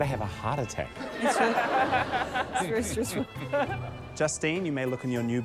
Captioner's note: laughter